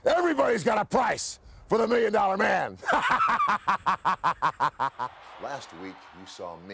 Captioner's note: laugh